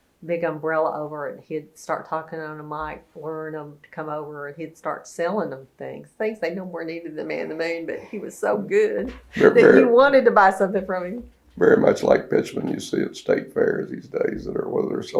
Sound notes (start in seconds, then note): 9.0 laughs